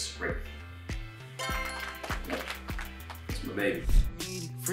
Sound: applause sound effect plays

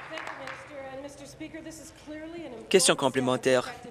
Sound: applause

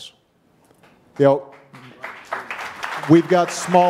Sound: audience applauding

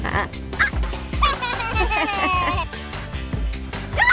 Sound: laughing

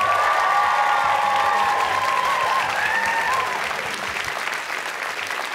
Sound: cheers and applause

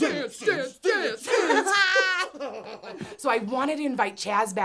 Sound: laughing together

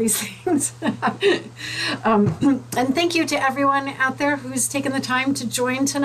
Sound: laughs

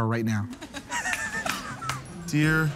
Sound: laughing

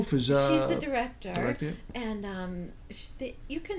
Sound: voiceover

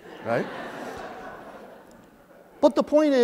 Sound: laughter

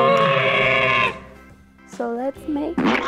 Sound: dinosaur roaring

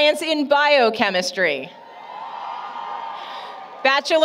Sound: applause, Cheering

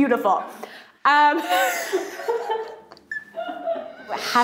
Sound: laughing

